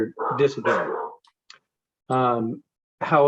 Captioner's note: dog barking